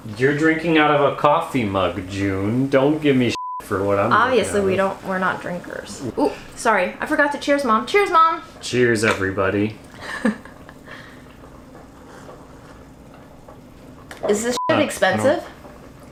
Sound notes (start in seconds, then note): 3.3 beeps; 10.0 laughs; 14.5 beeps